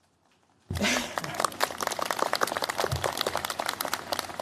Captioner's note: applause